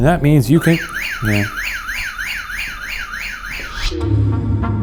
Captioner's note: motion alarm blaring; pulsing pensive music